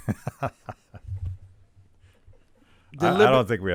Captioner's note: laughing